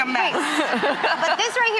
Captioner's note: laughter